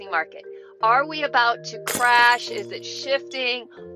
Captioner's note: glass shattering